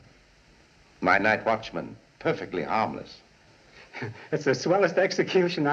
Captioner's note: chuckles